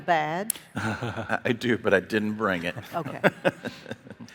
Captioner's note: chuckles